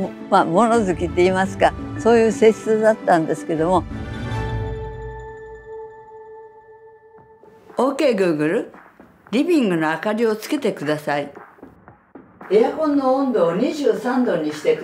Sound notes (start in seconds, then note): 9.5 speaking foreign language